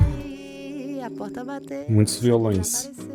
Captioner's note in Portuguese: suspirando